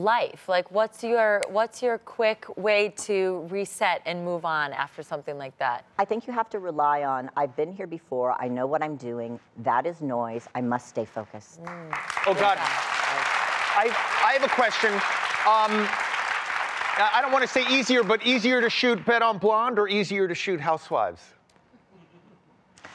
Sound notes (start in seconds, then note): 11.6 applause